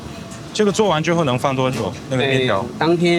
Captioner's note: speaking in foreign language; chef speaking in foreign language